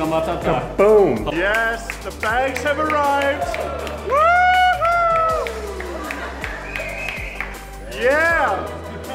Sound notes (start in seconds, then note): 3.7 crowd applauds; 5.0 crowd cheers